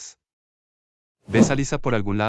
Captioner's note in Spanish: FX - Whoosh - 03